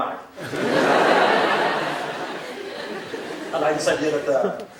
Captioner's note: crowd laughing